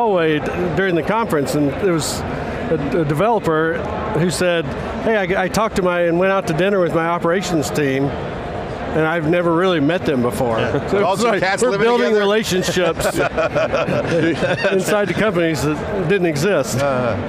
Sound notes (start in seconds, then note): 12.4 laughs